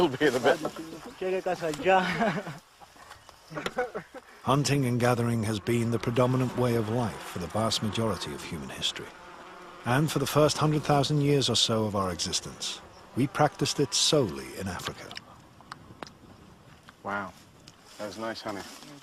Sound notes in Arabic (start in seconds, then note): 1.8 بالثرثرة بلغة أجنبية